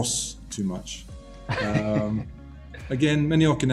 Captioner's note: laughs